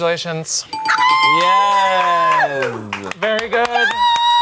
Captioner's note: group cheers